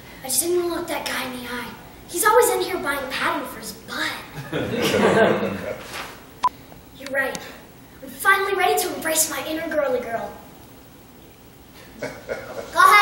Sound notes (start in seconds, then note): 4.3 laughter